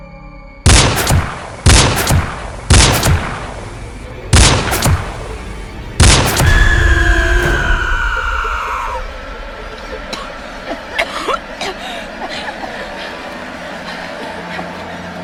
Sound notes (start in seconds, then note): 0.6 gun bangs; 6.4 Goocher shrieks; 9.6 Macy and Kody coughing